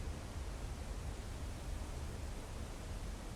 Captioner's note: wind